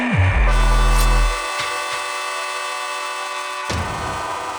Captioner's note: horn blaring